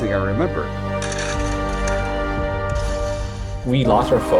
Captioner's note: clattering; glass shattering